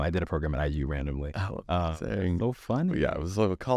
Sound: speaks faintly

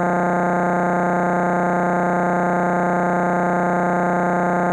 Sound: electronic buzzing continues

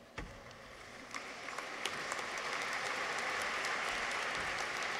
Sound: audience applauds

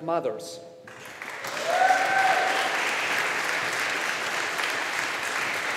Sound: audience applauding

